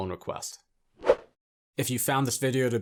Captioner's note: air whooshing